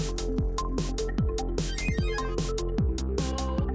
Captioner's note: digital blipping